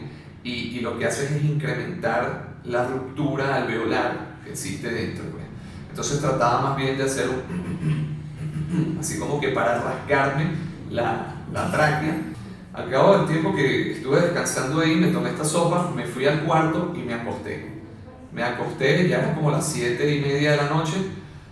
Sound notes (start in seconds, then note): 7.3 clar my throat